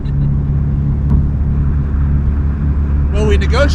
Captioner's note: laughs; engine humming